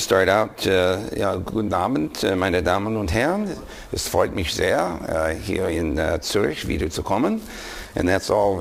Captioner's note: speaking german